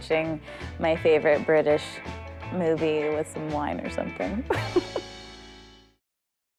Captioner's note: chuckles